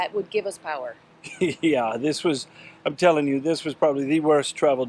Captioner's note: laughs